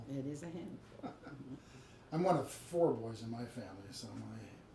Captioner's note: laughs